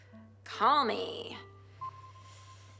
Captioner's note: system beeps